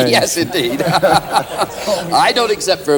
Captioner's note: laughter